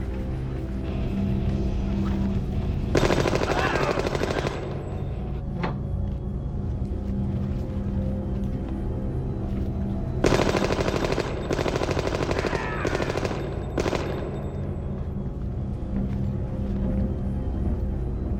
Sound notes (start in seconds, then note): 2.9 gun fires; 5.0 groaning; 10.2 gun fires; 12.3 screams